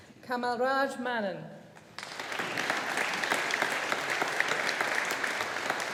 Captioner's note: audience applauding